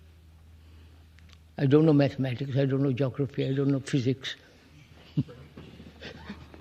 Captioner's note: laughs